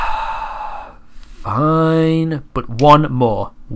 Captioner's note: sigh